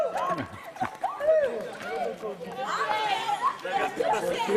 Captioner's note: laughter